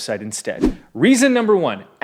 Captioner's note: air whooshing